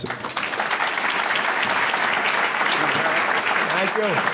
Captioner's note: audience clapping